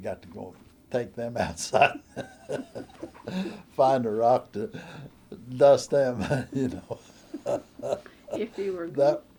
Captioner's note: laughter